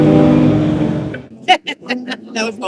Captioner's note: laughing